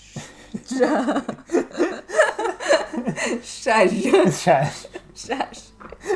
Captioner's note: laughs at the amount of shhhh sounds one after another